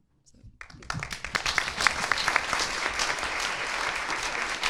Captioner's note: audience applauding